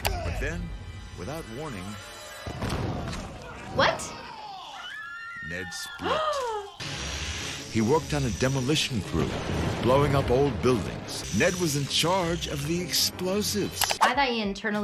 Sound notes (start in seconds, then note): 0.0 tense music; 0.2 Ned gasps; 6.8 machinery whirring; 7.4 gasping